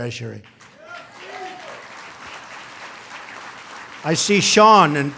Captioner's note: applause